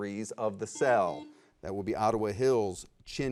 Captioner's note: buzzer rings